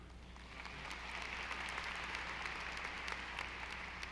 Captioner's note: audience applauding